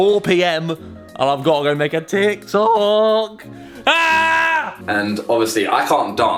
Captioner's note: screams